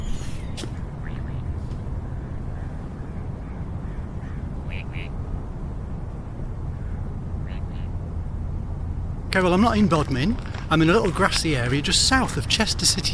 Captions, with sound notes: (ducks quacking) (quack quack) Okay, well, I'm not in Bodmin. I'm in a grassy area just south of Chester City.